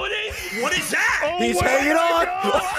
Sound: laughs

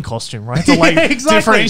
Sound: laughing

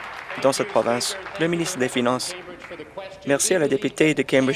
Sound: applause

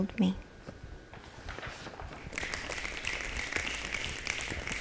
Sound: applause

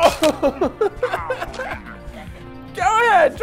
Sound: laughs

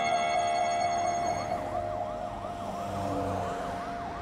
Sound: police siren wails

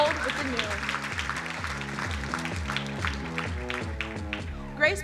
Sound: crowd applauding

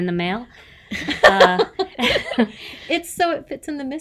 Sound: everybody laughs

